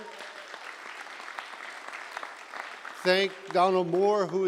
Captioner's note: applause